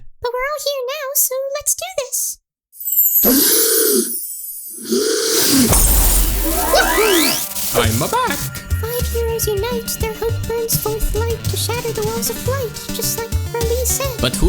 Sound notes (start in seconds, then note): 3.2 count bleck gasps; 5.4 glass breaks